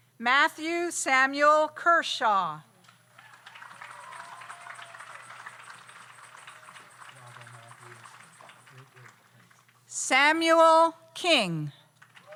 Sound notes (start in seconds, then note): 3.1 audience applauds; 3.1 audience cheers